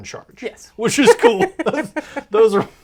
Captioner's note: laughs